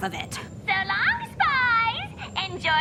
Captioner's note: intercom